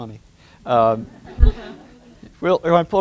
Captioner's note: laughter